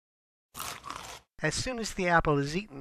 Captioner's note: chomp